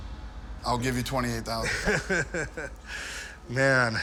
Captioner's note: laughs